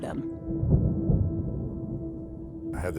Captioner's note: thunder rumbling